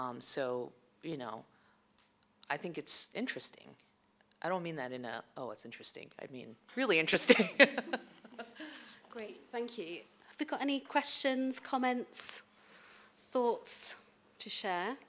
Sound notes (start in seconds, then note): 7.3 laughs